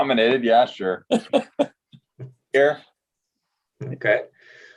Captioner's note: laughing